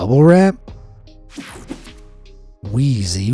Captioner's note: mellow music; graphic whooshes